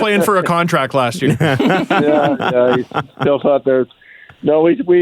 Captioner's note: laughter